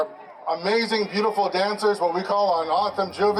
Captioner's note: speaks Native language; soulful tribal music